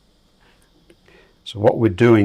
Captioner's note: silence